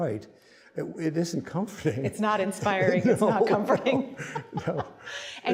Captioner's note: laughing